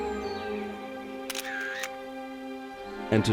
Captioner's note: shutter clicks